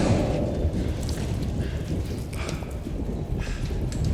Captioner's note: rain storm